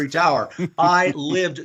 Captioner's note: laughs